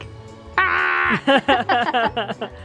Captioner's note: yells; laughs